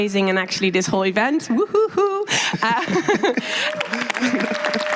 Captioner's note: applause